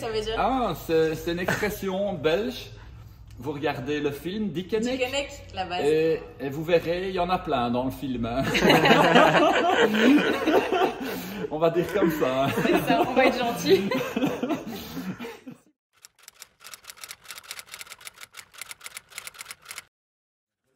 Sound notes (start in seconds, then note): 16.3 laughs